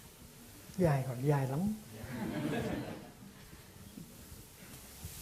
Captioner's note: audience laughs